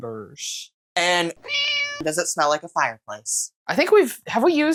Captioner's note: meow